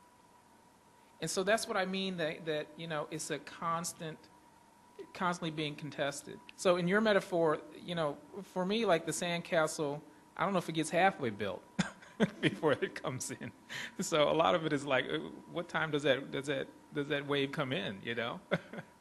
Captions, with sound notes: And so that's what I mean it's constantly being contested. So in your metaphor, for me, like the sandcastle, I don't know if it gets half way built (laughs) before it comes in. So a lot of it is, what time does that wave come in?